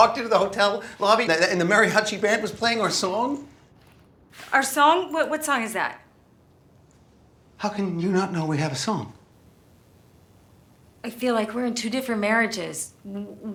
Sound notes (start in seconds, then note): none